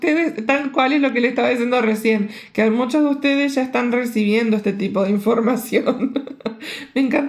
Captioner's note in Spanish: risas